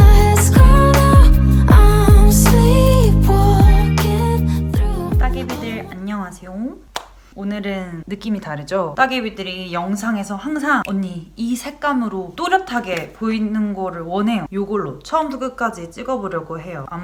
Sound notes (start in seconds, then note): 6.9 clap